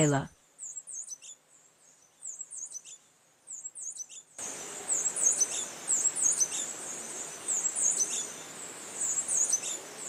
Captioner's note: birds chirping